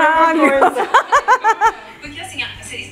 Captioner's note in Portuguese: risos